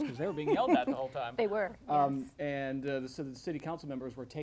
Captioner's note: laughs